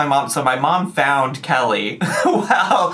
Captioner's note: laughs